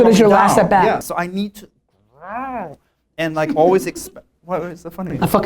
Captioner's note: growls